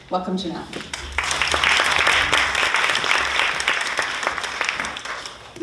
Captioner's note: audience applauding